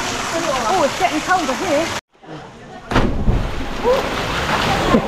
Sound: laughter

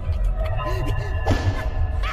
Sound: slam

